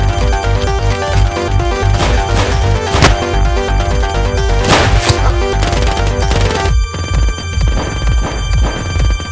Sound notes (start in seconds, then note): 1.9 gun shots; 4.6 gun shot